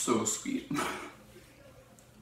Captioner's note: laughs